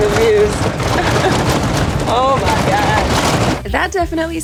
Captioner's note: truck rattling